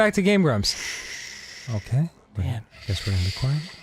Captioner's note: whispering